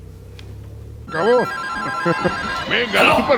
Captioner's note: phone ringing